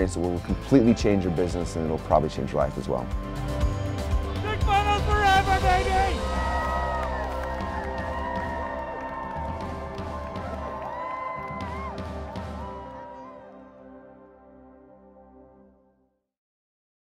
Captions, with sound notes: that will completely change your business, and it'll probably change your life as well. (heartfelt upbeat instrumental music) - Two Commas forever, baby! (crowd cheering)